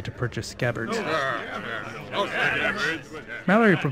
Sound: agitated murmurs about scabbards

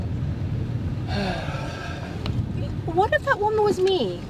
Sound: deep sigh

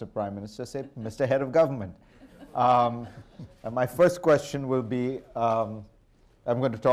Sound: laughter

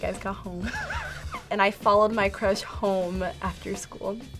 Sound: laughs

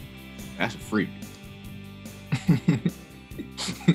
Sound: laughter

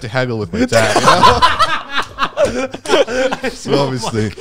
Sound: all laughing

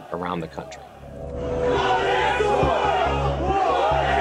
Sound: chanting

